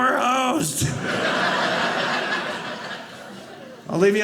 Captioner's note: audience laughing